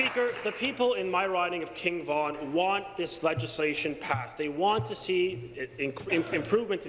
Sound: applause

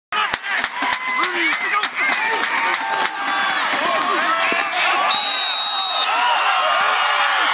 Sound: applause

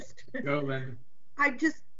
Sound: person chuckles

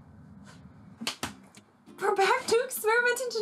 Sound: hands clapping

